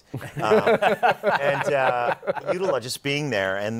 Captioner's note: laughter